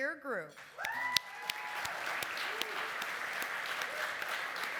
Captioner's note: applause